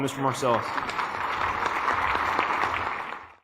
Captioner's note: applause